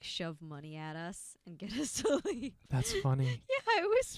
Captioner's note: laughing